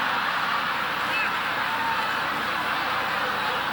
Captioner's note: audience laughing